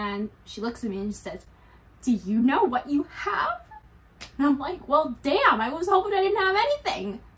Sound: none

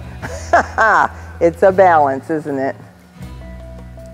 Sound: laughs

